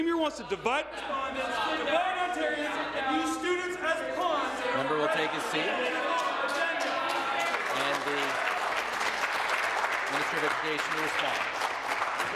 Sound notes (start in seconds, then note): 5.4 voice trailing; 11.5 applause